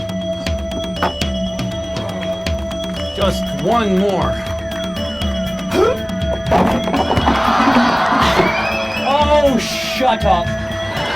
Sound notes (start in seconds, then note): 5.7 grunts